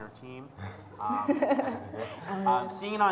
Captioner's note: laughs